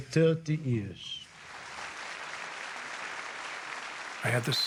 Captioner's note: audience applauding